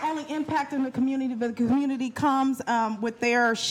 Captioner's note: applause